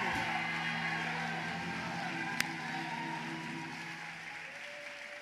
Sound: congregation cheering

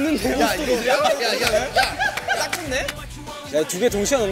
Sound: seal clap

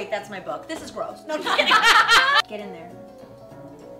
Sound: laughter

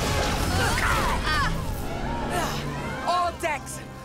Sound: people grunt

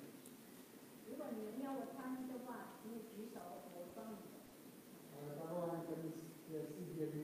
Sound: interpreters speaking in foreign language

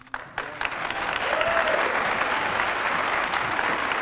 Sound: applause

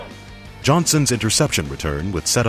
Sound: voiceover

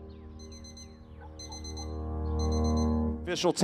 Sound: alarm clock beeping

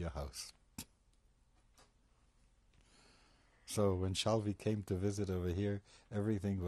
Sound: pauses for 3 seconds

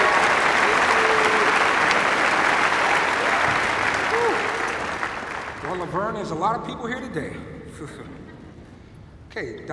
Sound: cheers and applause

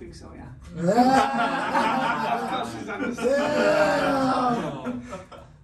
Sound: everybody laughing

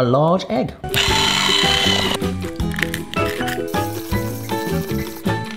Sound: electric mixer whisks

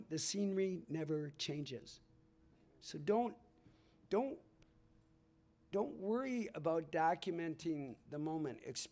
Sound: none

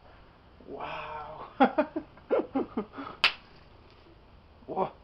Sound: laughs

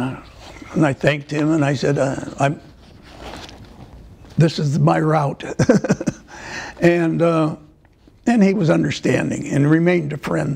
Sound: laughter

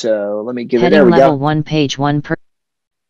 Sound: screen reader voice

